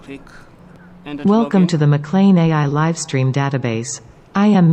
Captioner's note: A.I. speaking